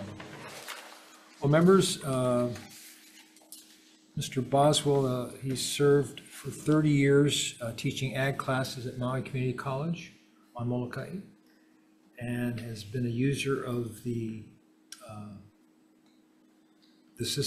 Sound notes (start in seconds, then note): none